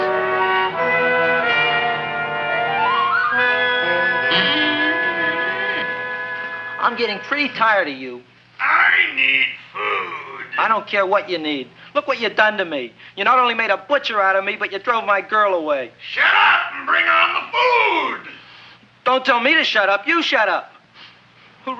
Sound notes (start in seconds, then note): 4.1 Audrey Jr. creaking